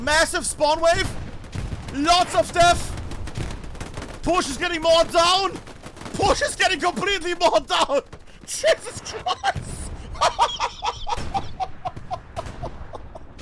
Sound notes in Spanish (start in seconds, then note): 10.4 risas